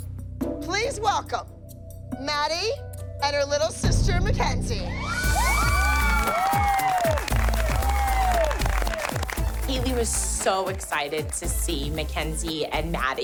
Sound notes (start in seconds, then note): 5.0 cheering